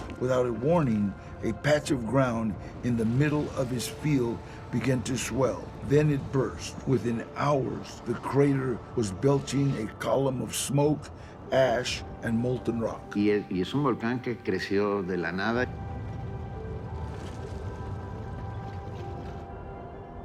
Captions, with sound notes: Without a warning, a patch of ground in the middle of his field began to swell. Then it burst. Within hours, the crater was belching a column of smoke, ash, and molten rock. [in Spanish] This volcano just appeared out of nowhere. [distant rumbling]